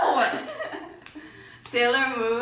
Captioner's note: giggles